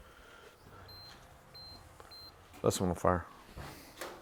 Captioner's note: machine beeps